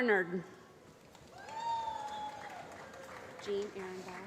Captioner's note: applause